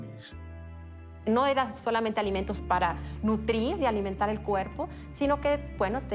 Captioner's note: in Spanish